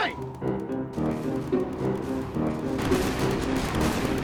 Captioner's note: guns firing